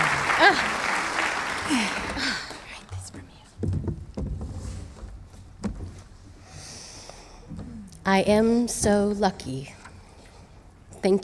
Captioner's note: applause